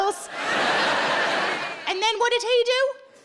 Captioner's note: audience laughs